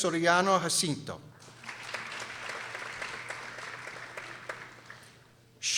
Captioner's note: people applauding